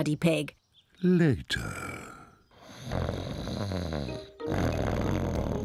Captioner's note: snoring